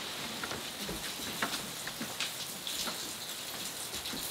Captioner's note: rain drizzling